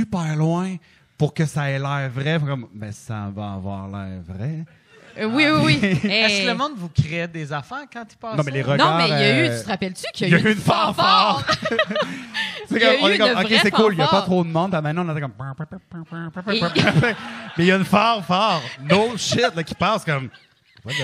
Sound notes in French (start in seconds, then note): 11.1 Rires; 16.5 Rires